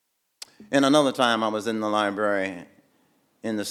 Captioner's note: none